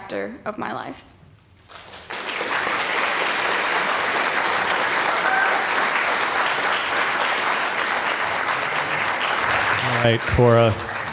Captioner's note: applause